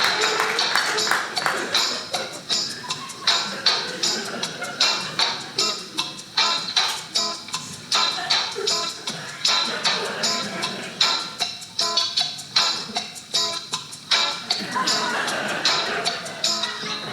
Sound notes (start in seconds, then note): 0.0 audience clapping; 14.5 audience laughing